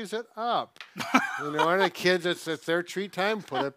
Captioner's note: laughs